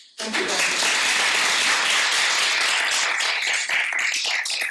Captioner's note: audience applauding